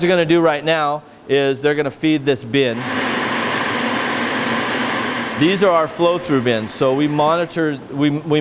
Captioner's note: sprayer sound